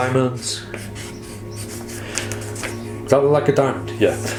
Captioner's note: paper rattling